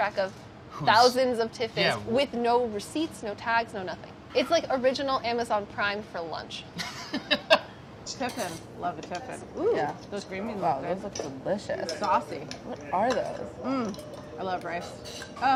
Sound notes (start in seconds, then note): 6.8 laughs